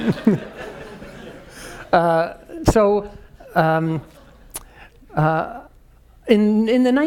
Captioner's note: laugh